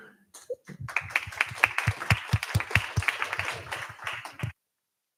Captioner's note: applause